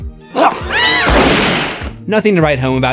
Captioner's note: screams